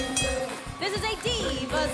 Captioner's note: bell ringing